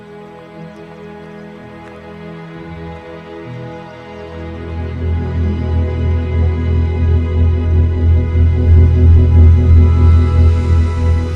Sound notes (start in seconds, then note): 5.8 ship humming